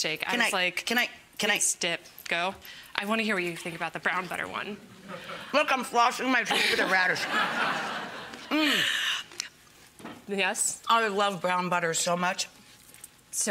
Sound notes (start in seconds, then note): 6.5 laughing